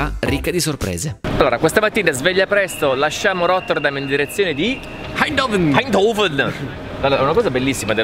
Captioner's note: in Dutch accent